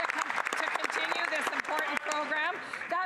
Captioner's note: some Applause